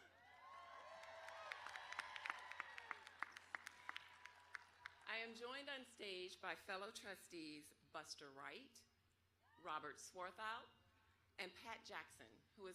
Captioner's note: applause